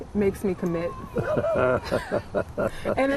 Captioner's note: laughs